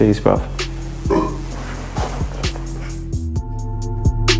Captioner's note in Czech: si krkl